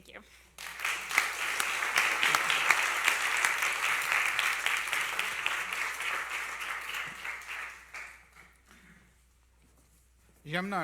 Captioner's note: applause